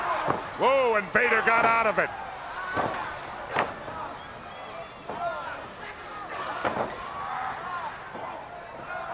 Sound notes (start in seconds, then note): 2.7 crowd yelling; 2.7 wrestlers grunting